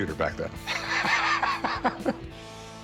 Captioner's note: laughs